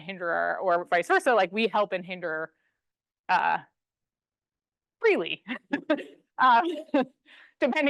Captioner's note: laughs